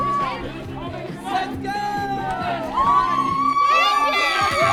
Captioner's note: cheers